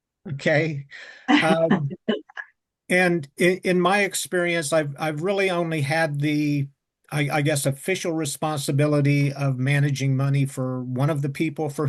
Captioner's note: laugh